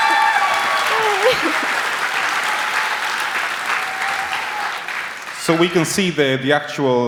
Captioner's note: applause